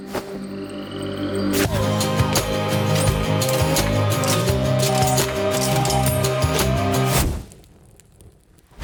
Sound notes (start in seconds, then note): 0.0 magical music plays; 2.8 armor clicks; 7.4 music pauses briefly